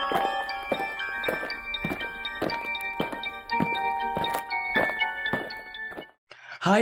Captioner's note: eerie music; aliens marching